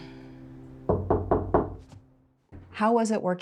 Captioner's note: knock on door